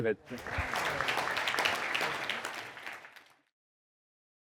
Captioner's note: audience applauding